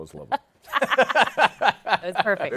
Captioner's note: laughter